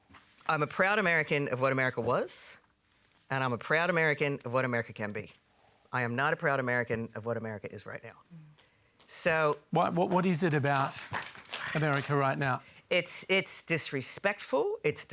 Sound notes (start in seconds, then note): 10.6 applause